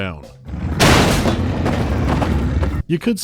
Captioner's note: crash